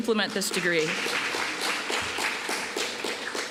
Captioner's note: applause